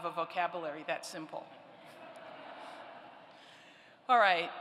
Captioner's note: laughter